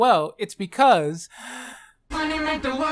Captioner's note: inhales